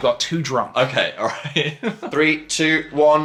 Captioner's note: laughs